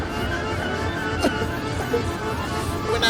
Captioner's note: crying